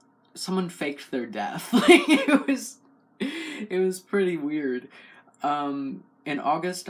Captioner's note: laugh